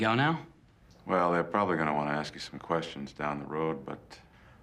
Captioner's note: none